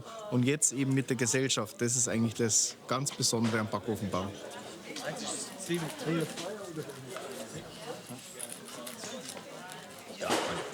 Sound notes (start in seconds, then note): 5.4 lively murmur of voices